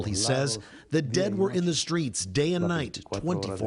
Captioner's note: speaking spanish